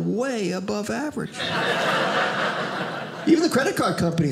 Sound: audience laughing

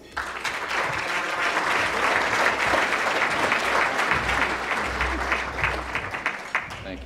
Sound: applause

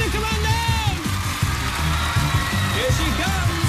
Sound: cheers and applause

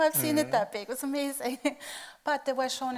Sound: laughing

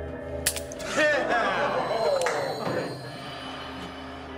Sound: click; inmates cheer

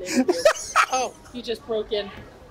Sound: laughs

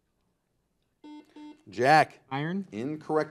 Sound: buzzer buzzes

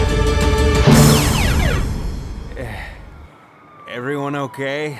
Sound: explosions, lasers and stuff; power down sound

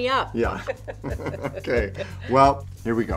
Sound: laughter

